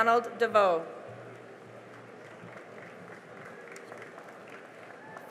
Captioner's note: cheering and applause